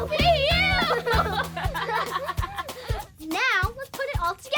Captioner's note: laughing